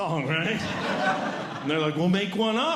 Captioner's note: audience Laughing